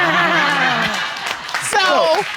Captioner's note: all laughing